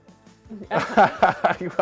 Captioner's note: laughing